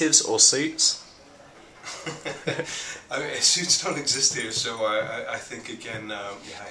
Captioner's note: chuckles